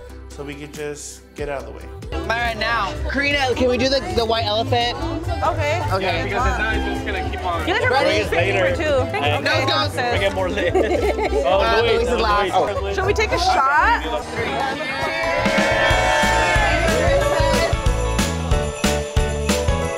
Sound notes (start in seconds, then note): 7.7 all chattering; 16.3 upbeat Christmas music